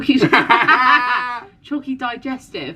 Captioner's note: laughing